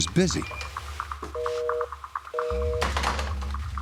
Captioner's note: busy signal